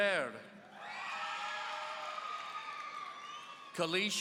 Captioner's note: audience cheering